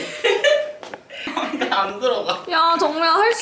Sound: laughing

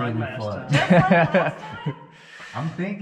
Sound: laughing

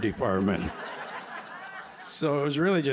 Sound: laughter

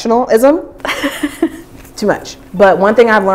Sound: laughing

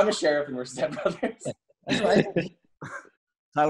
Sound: laughing

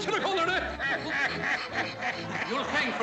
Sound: laughing

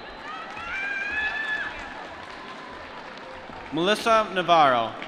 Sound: applause

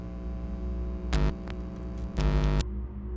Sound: audio interference humming; audio interference stops

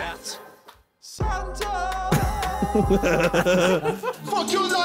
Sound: laughing

